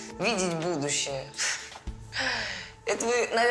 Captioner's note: sighs